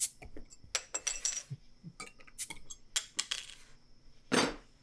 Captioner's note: bottle tops clanging